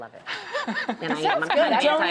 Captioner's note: laughing